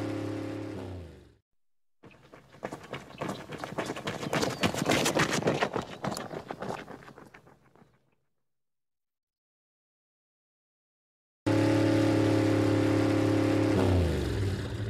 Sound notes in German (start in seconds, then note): 0.0 Motorengeräusch; 2.0 Hastige Schritte; 11.5 Motorengeräusch